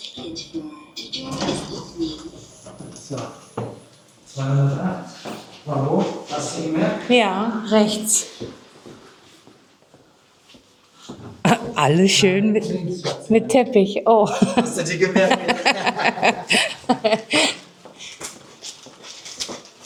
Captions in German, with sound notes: 208. Hast du gemerkt? Ja. Rechts. Alles [räuspern] schön mit mit Teppich. Oh, [gelächter] hast du die gemerkt?